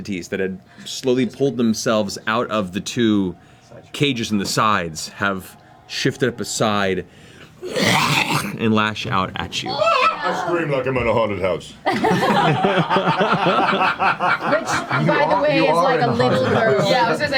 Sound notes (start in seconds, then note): 9.6 shrieks; 11.8 all laugh